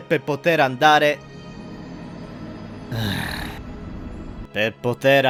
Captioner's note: groan